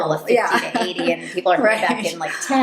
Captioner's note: laughing